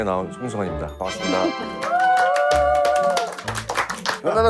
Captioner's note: clap clap